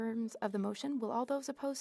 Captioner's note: speaking French